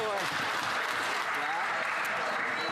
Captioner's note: some Applause